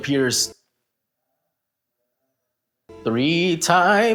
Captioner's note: confusion in Dominican Papi